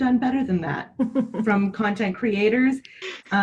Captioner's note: laughing